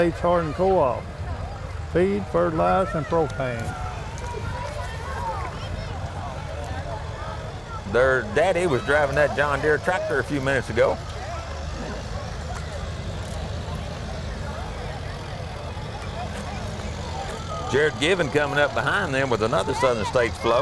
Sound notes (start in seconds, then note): 5.3 revving and chattering continue; 12.7 revving and chattering continue